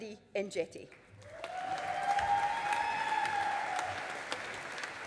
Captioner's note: audience applauding